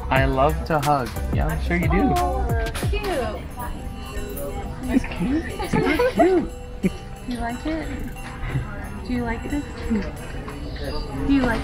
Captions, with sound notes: I love to hug, I'm sure you do. - Oh it's cute. - That's cute? (laughing) - Do you like it? Do you like this, do you like this?